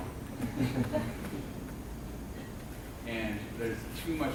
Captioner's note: laughing